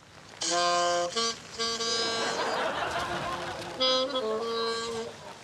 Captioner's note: audience laughs